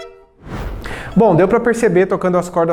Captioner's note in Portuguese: Som da corda